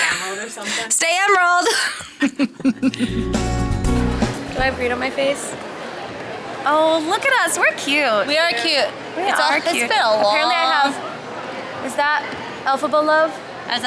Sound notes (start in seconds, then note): 0.0 laughing; 1.7 both laughing; 2.8 upbeat music